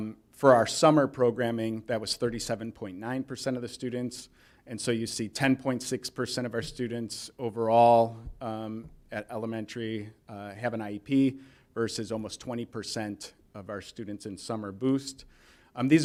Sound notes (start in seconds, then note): none